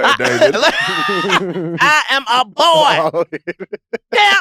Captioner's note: laughs